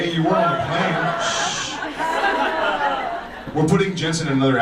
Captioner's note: audience laughs